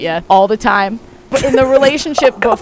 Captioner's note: laughing